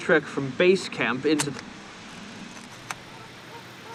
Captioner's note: camera shutter clicks